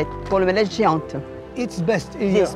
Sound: French language; foreign language; French language

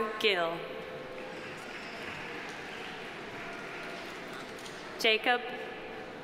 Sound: audience applauding

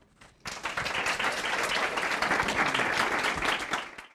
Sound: applause

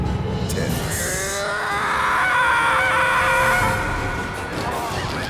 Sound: screaming

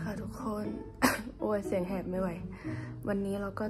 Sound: cough

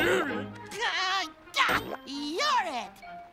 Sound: laughs

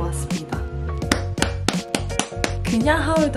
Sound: claps!!!

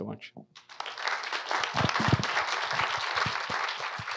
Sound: audience applauds

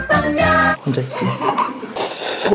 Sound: dying of laughter

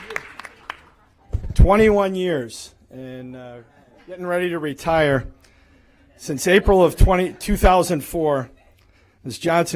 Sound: applause

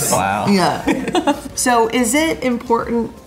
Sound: giggles

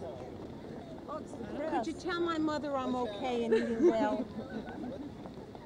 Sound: laughs; ambient noise and chatter

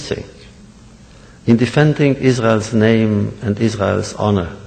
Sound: none

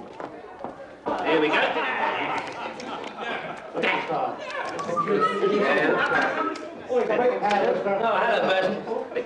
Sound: loud conversations

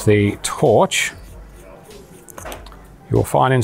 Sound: metal sliding on metal

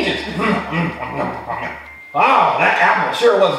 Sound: munching

